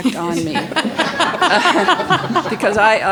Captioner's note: audience laughs